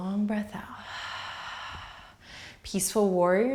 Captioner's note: exhaling